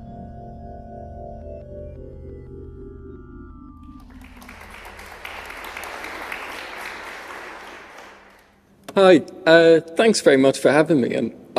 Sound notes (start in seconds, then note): 3.8 applause